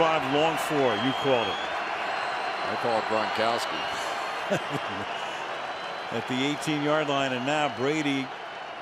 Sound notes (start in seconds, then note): 4.4 laughs